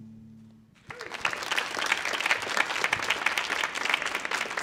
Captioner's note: audience clapping